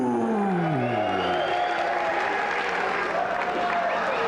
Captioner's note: spectators cheering